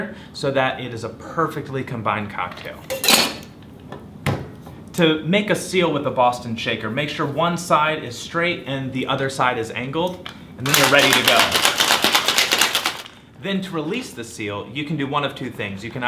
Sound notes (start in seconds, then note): 10.6 ice clanking